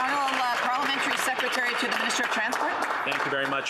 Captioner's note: some Applause